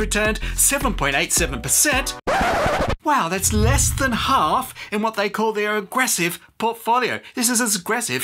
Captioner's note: record scratch